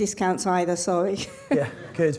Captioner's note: laughs